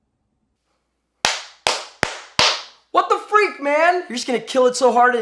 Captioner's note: claps